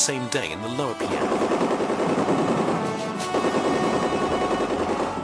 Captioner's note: guns blasting